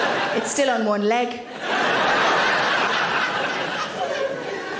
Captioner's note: audience laughing